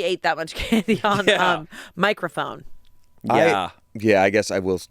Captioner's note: laughs